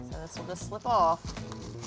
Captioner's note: rattle